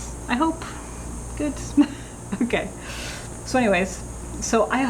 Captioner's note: laughing